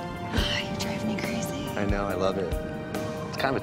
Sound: sighs

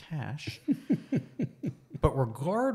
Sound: laughs

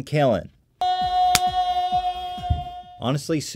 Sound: yelling

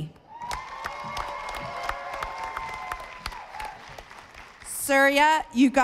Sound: audience applauding

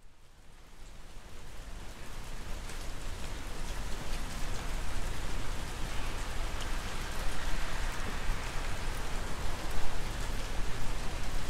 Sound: rain

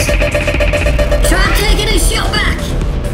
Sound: blaster charging up

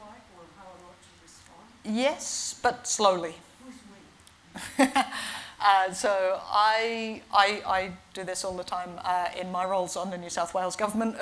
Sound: laughs

